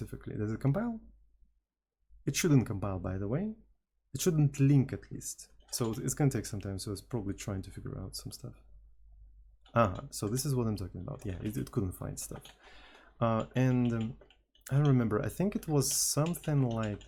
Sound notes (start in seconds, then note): 1.9 teakettledrone